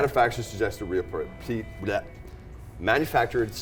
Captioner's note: stutters